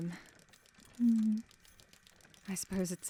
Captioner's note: etta hums in agreement